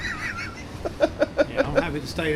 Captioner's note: laughs